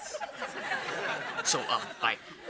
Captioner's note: audience laughing